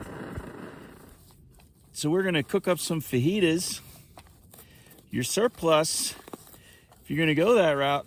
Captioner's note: fire burning on stove